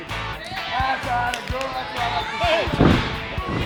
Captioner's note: people cheering; thud